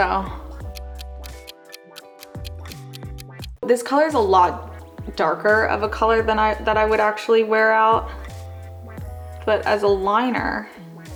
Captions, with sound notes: [clock ticking] This color is a lot darker of a color that I would actually wear out. But as a liner,